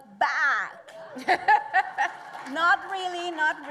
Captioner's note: laughs